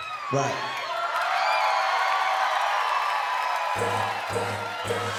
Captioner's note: crowd cheers and claps